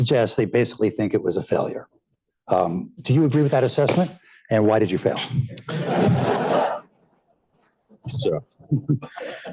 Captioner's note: laughter